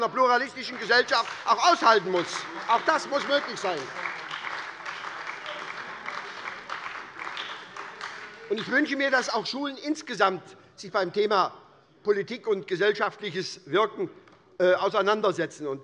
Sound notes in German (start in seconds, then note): 4.3 Beifall bei der SPD - Zurufe von der CDU